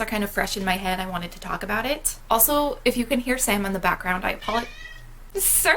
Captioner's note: meow